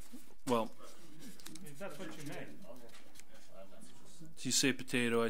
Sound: overlapping chattering

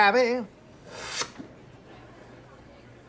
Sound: inhales sharply

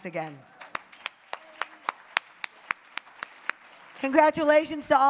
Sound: applause

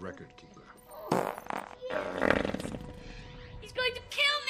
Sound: lets out a rather disgusting fart

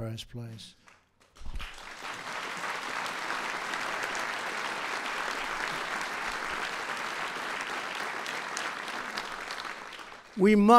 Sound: applause

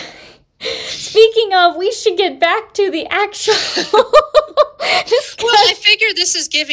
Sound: laughter

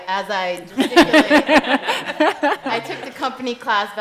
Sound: laughing

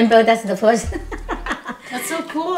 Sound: laughs

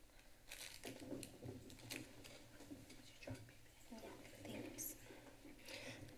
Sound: rustles

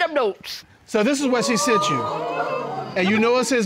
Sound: audience exclaiming

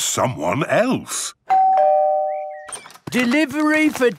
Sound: door bell ringing

